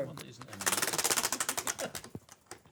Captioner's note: ratcheting